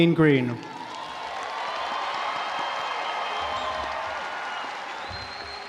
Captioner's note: audience applauding